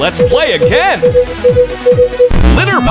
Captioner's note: beeping